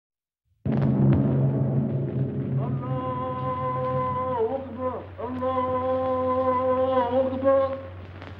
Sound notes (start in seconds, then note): 0.7 anticipatory music; 0.8 chanting in foreign language